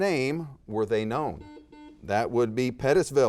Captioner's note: buzzer beeps